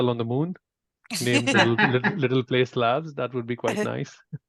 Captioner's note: chuckles